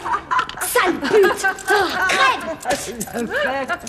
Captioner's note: spits; inmates shouting, laughing